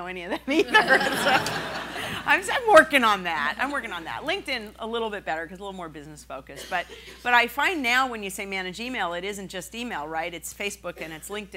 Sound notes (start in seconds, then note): 2.8 laughing